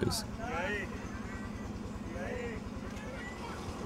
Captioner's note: speaking foreign language